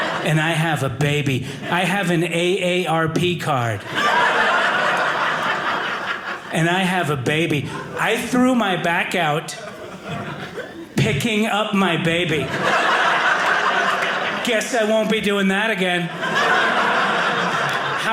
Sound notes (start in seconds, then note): 3.6 audience laughing; 11.8 audience laughing